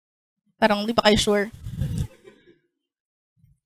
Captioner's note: laughter